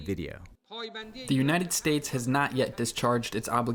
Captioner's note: through translator